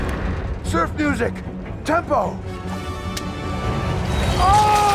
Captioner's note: screams